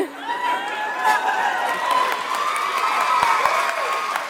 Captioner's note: audience applauds